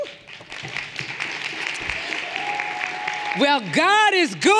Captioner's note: everyone applauding